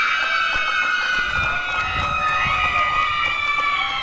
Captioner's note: applause and cheering